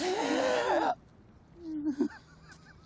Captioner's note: gasping